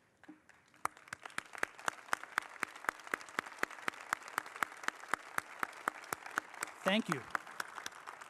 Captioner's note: applause